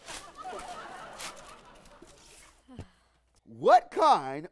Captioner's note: crowd laughs